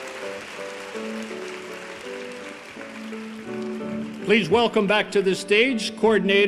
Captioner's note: applause